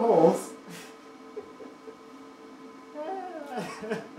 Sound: laughs

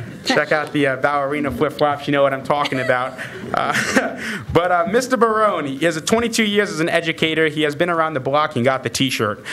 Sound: laughter

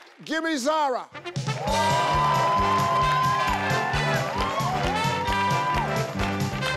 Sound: upbeat music; audience cheering

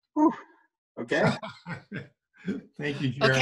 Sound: laughter

